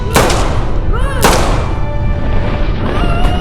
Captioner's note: yelling